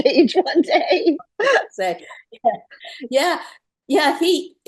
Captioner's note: laughter